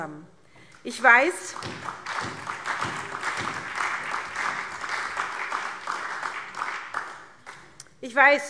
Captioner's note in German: Beifall SPD